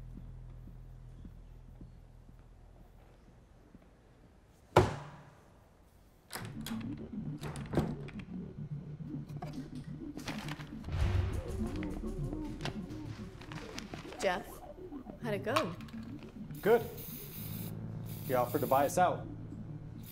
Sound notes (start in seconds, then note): 6.3 door opens; 8.9 dramatic music playing; 16.5 spray paint can spraying